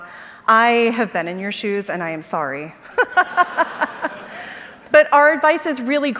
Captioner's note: laughs